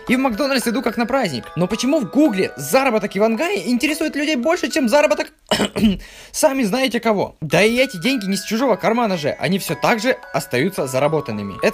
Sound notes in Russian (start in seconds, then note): 5.5 кхм-кхм